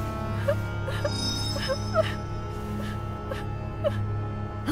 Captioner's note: Princess Oren cries; metal chimes